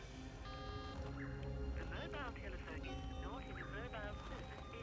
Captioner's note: cellphone beeps